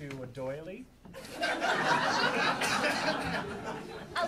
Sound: audience laughing

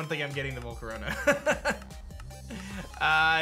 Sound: chuckles

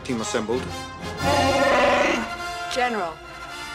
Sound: roars

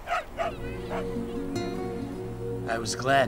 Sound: dog barking

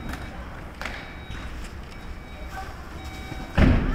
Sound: beeping

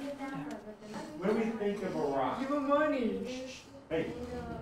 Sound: class continues in background

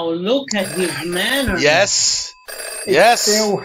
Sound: phone rings again

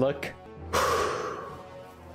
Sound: exhales

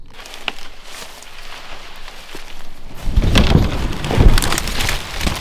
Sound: brush crackling

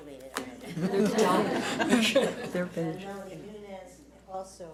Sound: audience laughs

